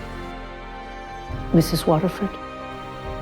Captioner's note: voiceover